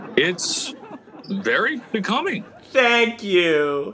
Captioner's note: audience laughing